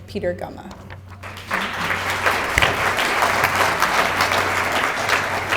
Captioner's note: audience applauding